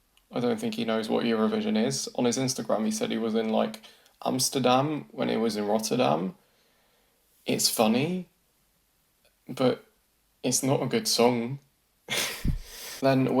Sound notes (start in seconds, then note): 12.2 laughs